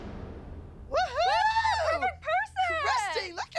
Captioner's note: cheering